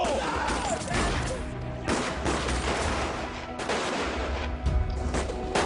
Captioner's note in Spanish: Disparos